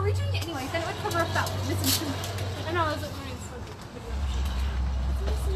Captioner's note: women chatting and laughing